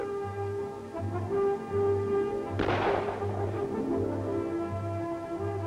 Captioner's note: gunshots